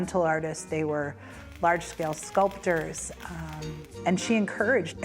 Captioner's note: welding rod arcing